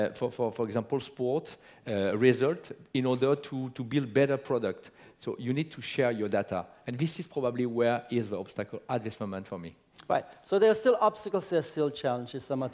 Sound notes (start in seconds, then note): none